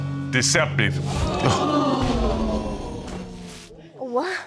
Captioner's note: audience gasping